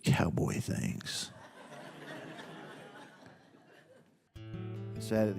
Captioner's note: audience laughs